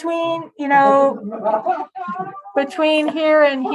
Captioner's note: laughter